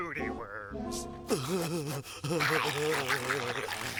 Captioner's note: laughing